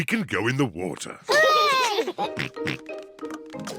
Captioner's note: peppa and george cheer